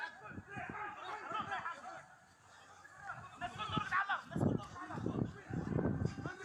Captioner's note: people yelling in foreign language